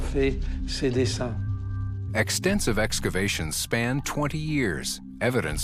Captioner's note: narrator in English